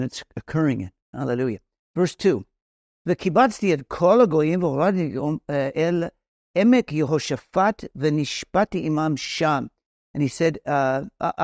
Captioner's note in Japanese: ヘブライ語